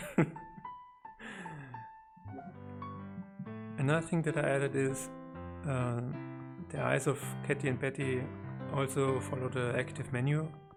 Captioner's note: giggles